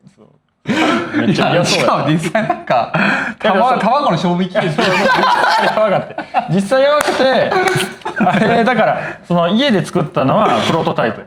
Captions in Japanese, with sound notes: そう。 めっちゃそう。 実際なんか卵の勝負きでしょ。実やばかって。実際やばくてあれだからその家で作ったのはプロトタイプやね。 [笑い]